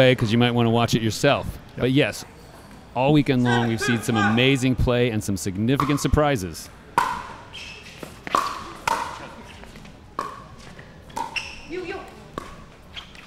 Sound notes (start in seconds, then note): 7.9 ball bouncing